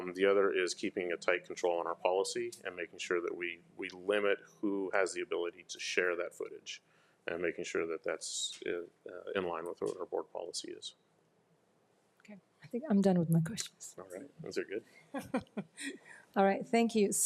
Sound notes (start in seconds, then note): 15.1 laughs